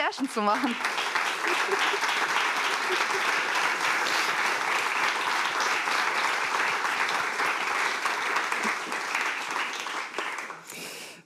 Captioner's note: applause